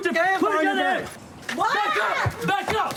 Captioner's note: screams